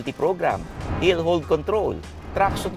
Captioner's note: none